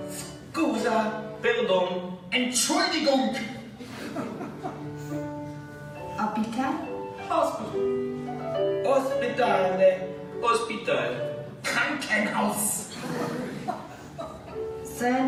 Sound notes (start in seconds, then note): 0.1 speaking Italian; 1.7 speaking Spanish; 2.8 speaking German; 7.5 speaking English; 8.9 speaking Italian; 10.8 speaking Spanish; 12.0 speaking German